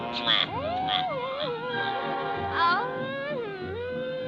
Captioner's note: smooching; Olive humming